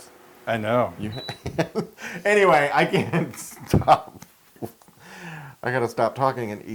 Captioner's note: laugh